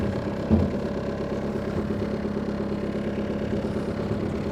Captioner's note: engine rumbles